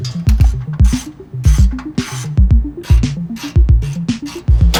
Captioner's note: wrench cranks